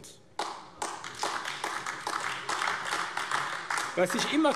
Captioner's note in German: Beifall AfD